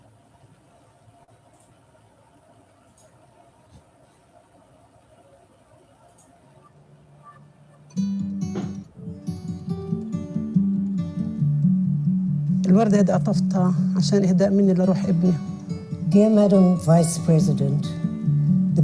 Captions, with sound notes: (upbeat music) (speaking in foreign language) - Dear Madam Vice President,